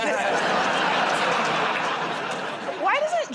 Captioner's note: laughter